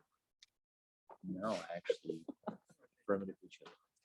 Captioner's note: murmurs